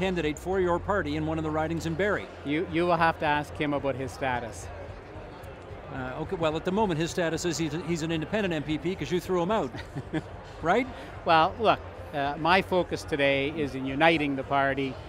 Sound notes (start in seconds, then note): 9.7 nervous chuckling